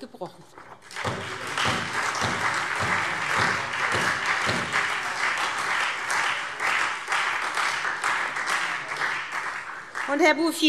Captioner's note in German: Beifall SPD und Freie Demokraten